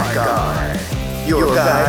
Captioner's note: echoing Announcer